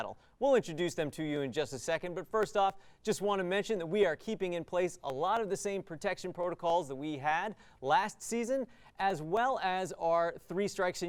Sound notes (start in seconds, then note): none